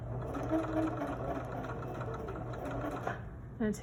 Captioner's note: sewing machine hums